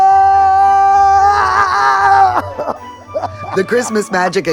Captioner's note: screaming